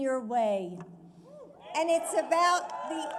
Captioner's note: applause